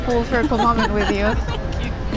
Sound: laughing

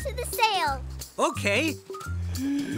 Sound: breath whistling

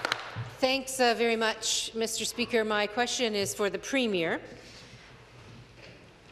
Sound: some Applause

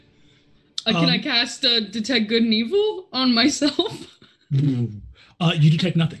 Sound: laughs

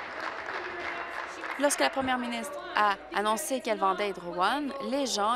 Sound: applause

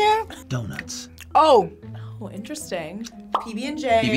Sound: bubble popping

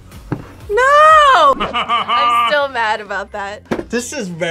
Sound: laughs

